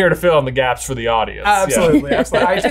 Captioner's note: laughs